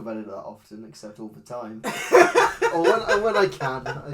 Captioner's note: laughs